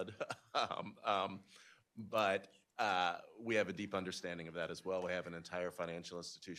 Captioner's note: laughs